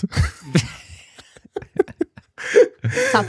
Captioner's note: laughter